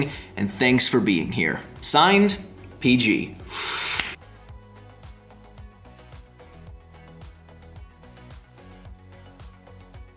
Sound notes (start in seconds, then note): 3.4 sucks in air; 3.6 clicks fingers; 4.6 relaxed music